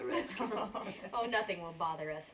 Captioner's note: laughing